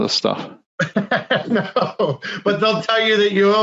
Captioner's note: laughing